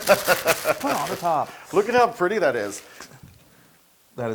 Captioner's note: laugh